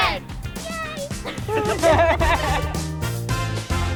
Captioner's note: others laugh